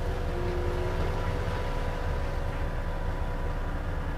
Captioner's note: electronic humming